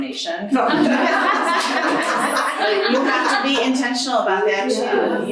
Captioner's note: audience laughing